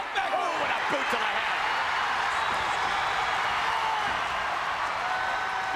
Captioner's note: crowd cheers